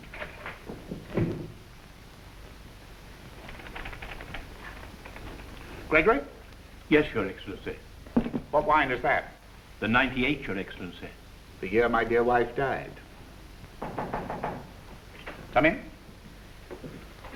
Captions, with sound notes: - Gregory. - Yes, your Excellency? - What wine is that? - The '98, your Excellency. - The year my dear wife died. (door knocks) Come in.